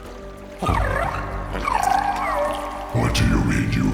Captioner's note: tired gurgle